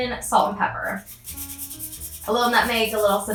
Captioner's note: zester scraping